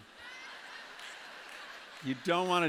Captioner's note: laughter